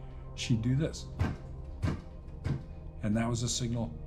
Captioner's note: foot thumps three times